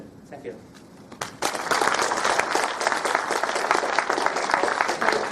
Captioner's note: audience applauding